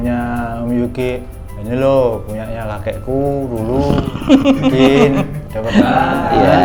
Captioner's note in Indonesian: tertawa